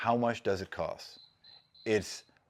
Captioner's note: cricket chirping